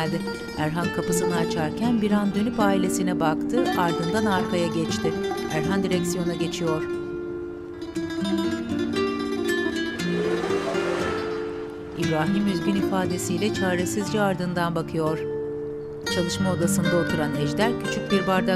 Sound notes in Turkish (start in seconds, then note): 9.8 Araba sesi; 12.0 Müzik - Duygusal